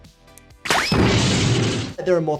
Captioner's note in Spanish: golpe sordo del personaje